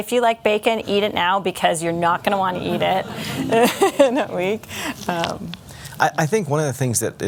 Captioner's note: laugher